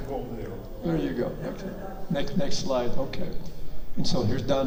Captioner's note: and audience laughs